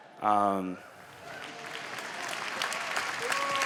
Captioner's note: applause